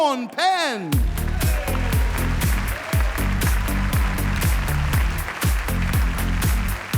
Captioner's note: upbeat pop music; audience applauding